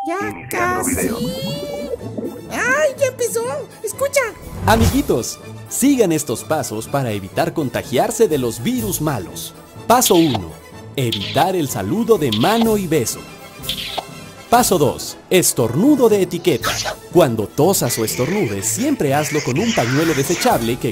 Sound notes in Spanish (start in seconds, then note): 13.6 Sonido besos; 16.6 Estornudo